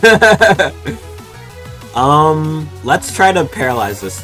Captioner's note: laughter